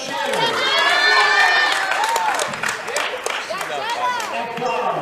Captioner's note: cheering